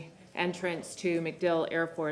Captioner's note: none